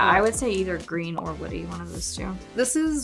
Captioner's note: image popping and sliding